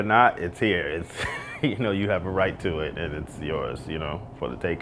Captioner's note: chuckles